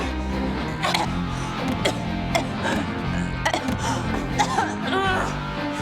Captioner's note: coughing